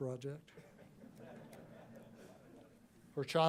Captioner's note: laughter